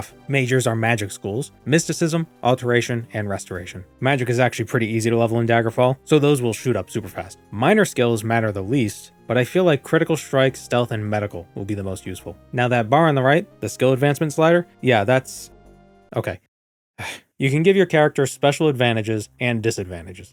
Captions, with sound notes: Majors are magic schools, mysticism, alteration, and restoration. Magic is actually pretty easy to level in Daggerfall, so those will shoot up super fast. Minor skills matter the least, but I feel like critical strike, stealth, and medical will be the most useful. Now that bar on the right, the skill advancement slider? Yeah, that's... okay. *sigh* You can give your character special advantages and disadvantages.